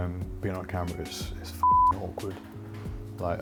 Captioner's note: beep